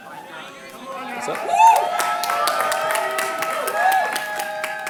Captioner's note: cheers and applause